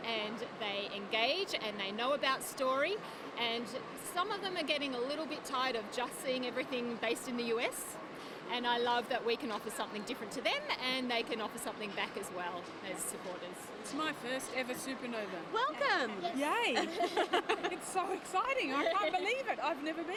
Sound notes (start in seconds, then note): 16.8 everyone laughs